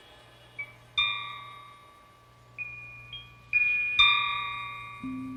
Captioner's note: chimes tinkling